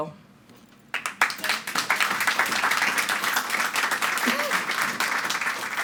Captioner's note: audience applauding